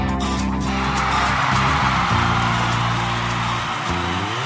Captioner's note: audience cheering